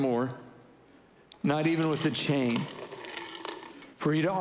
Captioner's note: chain rattling